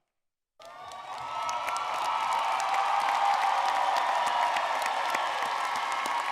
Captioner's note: audience cheering and clapping